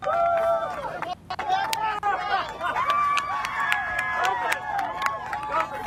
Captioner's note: applause